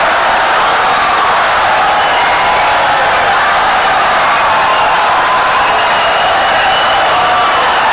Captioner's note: wild applause and cheering for 17 seconds